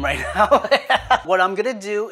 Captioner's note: laughs